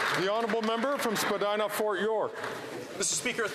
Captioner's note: speaking indigenous language; some Applause